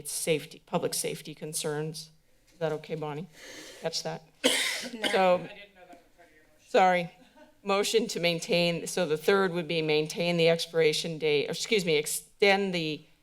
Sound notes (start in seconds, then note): 4.4 coughs